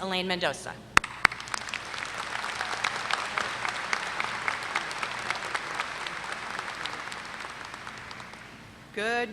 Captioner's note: applause